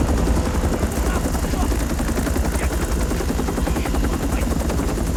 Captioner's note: Korean